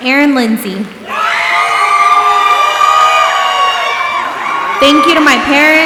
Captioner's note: audience applauding and cheering